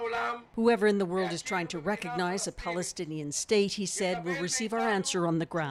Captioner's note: speaking alternate language